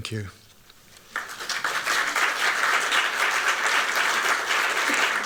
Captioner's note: applause